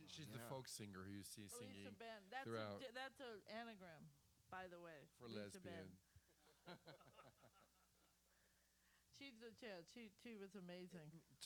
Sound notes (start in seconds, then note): 6.4 laughter